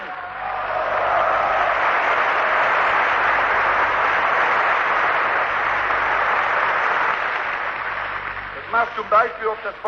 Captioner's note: applause